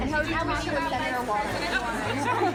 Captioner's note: reporters talking; laughing